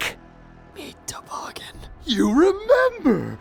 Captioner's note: terrified whisper